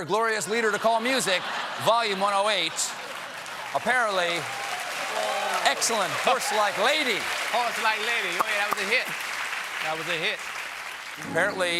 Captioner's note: cheers and applause